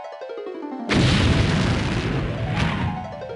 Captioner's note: kaboom